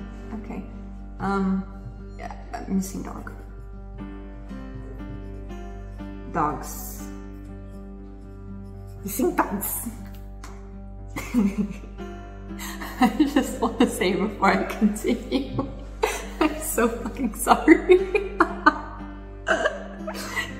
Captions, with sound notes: OKAY UM YEAH A MISSING DOG DOGS MISSING DOGS [LAUGHS] I JUST WANNA SAY BEFORE I CONTINUE I'M SO FUCKING SORRY [LAUGHS]